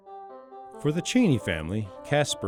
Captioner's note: playful music; voiceover